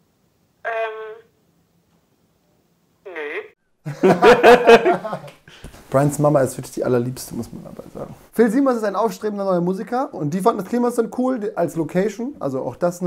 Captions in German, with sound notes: (Mutter) Ähm ... nee. Brians Mama ist wirklich die allerliebste. Phil Siemers ist ein aufstrebender Musiker. Die fanden das Kliemannsland cool, als Location.